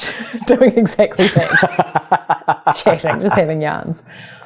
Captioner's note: laughing